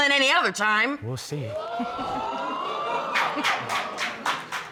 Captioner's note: chuckles; audience exclaims, applauds